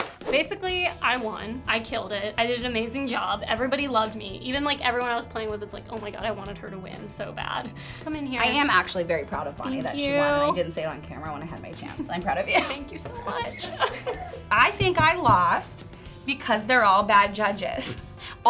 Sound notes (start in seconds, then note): 0.0 applause; 14.0 fake cry